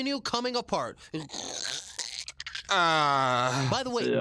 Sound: Mr. Garrison groans

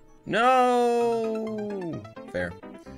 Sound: death audio

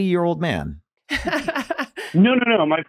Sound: laughing

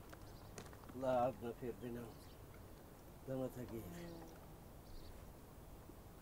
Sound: in Tajik

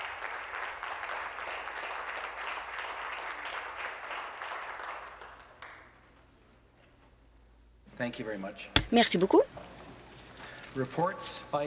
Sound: applause

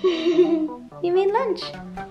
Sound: giggles

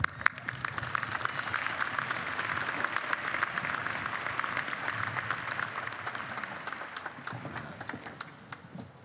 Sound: applause

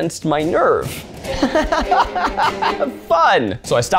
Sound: laughs

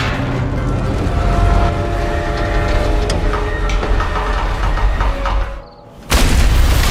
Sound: loud clang; metal screeching; cricket chirps; explosion

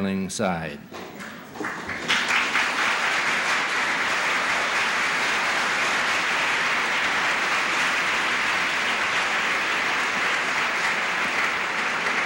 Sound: applause

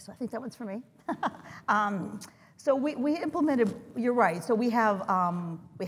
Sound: laugh

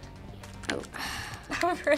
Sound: sighs

